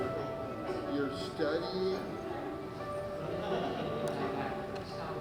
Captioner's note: people chattering